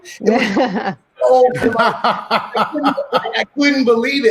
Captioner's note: laughing